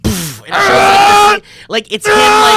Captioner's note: screams